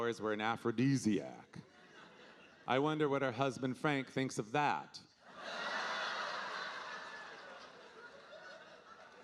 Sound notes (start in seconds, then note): 5.3 audience laughing